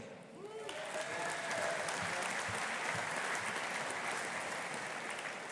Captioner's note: audience applauding